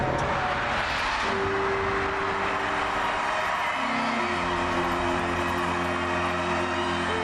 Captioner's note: crowd cheers; gentle light music